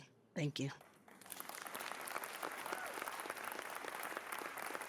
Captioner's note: cheering